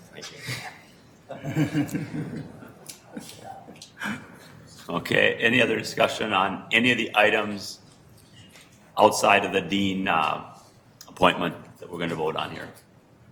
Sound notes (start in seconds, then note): 1.2 group chuckling